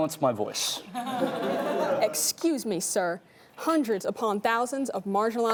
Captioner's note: laughing